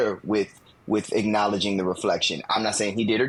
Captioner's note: none